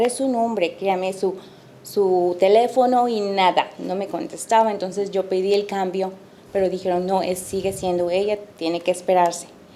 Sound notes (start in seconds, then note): 4.0 speaking Spanish